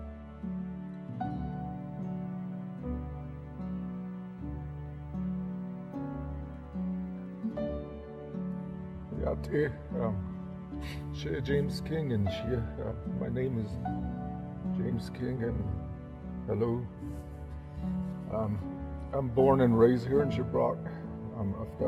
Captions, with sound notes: (tranquil piano music) (speaking foreign language), James King. My name is James King and hello. I'm born and raised here in Shiprock.